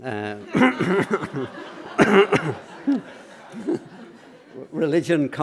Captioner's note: laughter